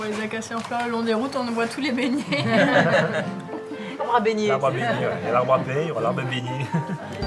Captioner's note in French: rires